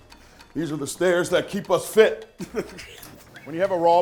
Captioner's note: chuckles